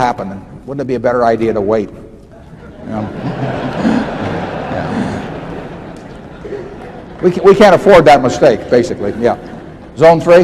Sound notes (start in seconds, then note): 2.4 laughter